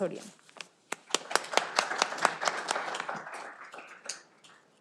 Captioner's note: audience applauding